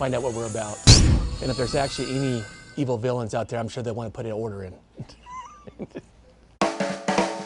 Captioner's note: laughs; not evil laugh